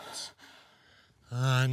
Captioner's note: heavy breathing